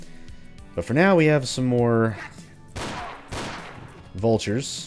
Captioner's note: bang bang